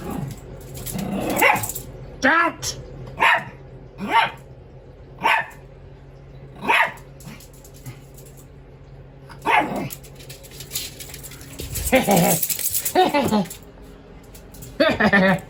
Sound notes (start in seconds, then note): 0.0 Ella growls then barks at Caprice; 3.7 Ella barks